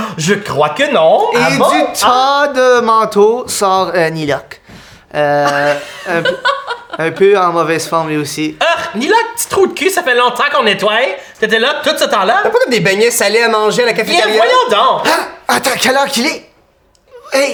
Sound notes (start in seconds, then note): 5.4 Roxanne and Zara laugh